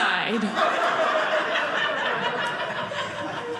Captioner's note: audience laughing